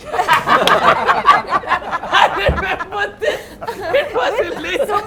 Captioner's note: laughs